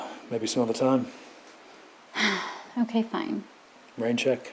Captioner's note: sighs